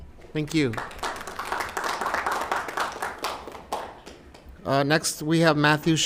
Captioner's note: applause